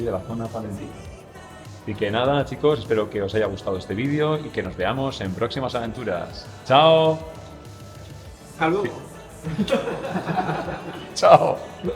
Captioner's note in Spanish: Risas